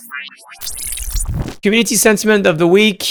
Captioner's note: electric whooshing